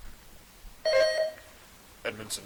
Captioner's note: buzzer dings